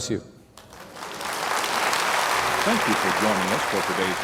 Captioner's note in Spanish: aplauso